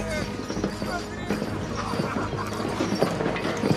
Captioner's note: inmates laughing